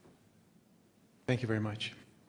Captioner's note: voiceover